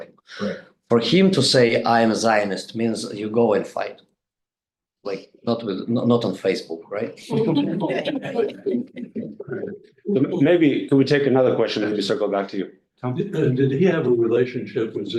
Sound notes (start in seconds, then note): 7.2 group laughing